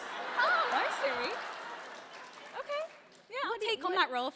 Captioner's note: laughter